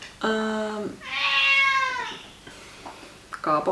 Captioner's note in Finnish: kissa huutaa